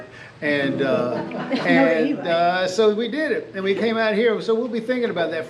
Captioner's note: lauging